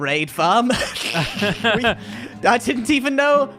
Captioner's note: both laugh